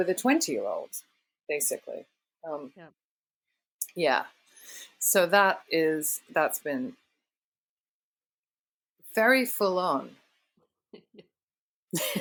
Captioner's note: laughter